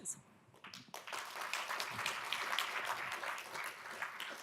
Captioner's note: audience claps